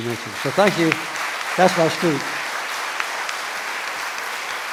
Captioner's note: audience applause